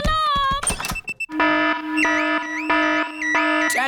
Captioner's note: alarm blaring